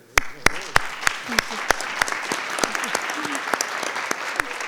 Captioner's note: group clapping